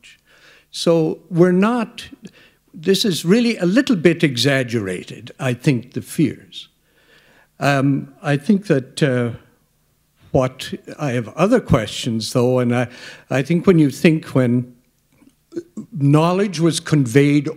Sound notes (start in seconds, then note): none